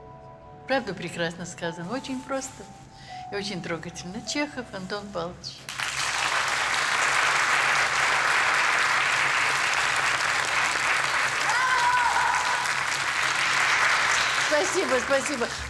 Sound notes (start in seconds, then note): 5.6 crowd applauds